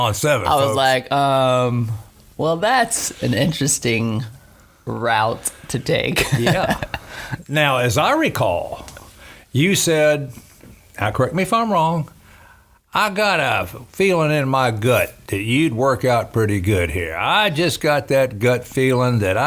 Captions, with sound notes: - I've been here six years goin' on seven, folks. - I was like, "Um, well, that's an interesting route to take." (laughing) - Yeah, now as I recall, you said... Now correct me if I'm wrong. "I got a feelin' in my gut that you'd work out pretty good here. I just got that gut feelin' that